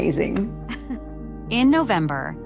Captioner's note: laughing